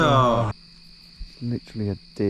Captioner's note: laughing; crickets chirping